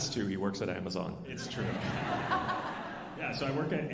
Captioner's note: alumni laughing